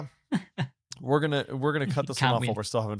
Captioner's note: chuckles